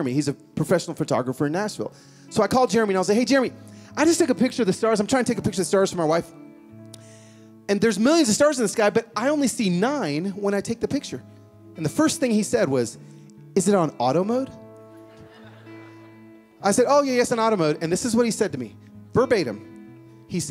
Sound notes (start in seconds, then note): 14.9 laughing